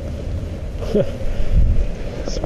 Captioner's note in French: ris avec virilité